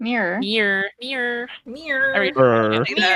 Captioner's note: mockingly